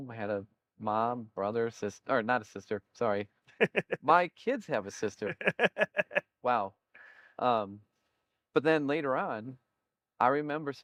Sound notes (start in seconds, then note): 5.1 laughter